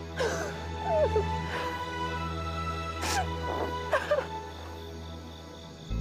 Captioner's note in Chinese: 哭聲